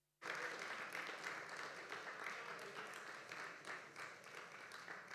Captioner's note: applause